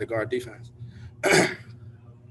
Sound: coughs

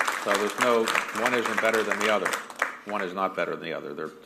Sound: applause

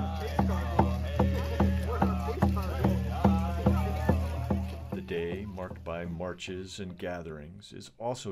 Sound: chanting

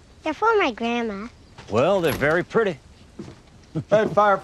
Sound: door opens

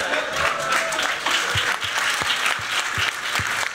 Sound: applause

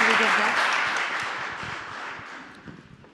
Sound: applause

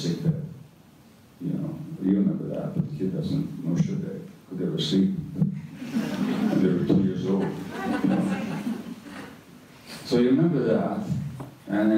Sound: audience laughter

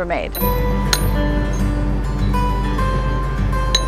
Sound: clinking sound of hammer and nail on stone

